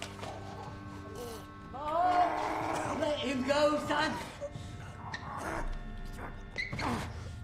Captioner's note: choking